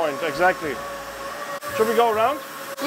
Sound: machinery whirring

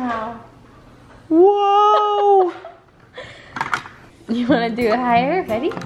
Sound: laughing

